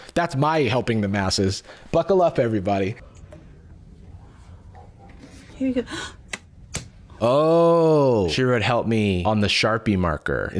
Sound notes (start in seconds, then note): 5.8 gasps